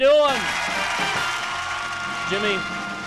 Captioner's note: applause